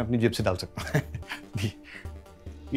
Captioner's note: Keshav laughs